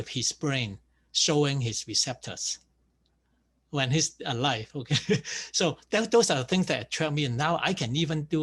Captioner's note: laughs